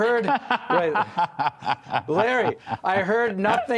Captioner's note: laughter